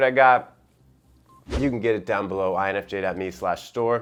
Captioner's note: air whooshes